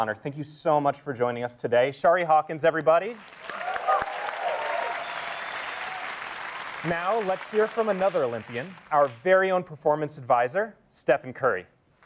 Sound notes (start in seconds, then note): 3.2 cheering